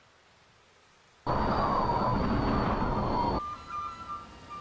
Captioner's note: wind howling